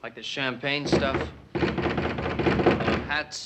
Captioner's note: banging at door